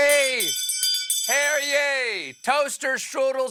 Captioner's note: bell ringing